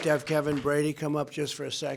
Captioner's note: applause